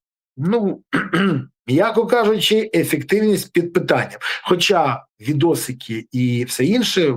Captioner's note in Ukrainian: прочищення горла